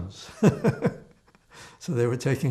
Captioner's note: laughing